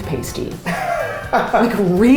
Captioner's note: laughs